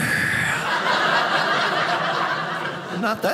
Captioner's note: audience laughing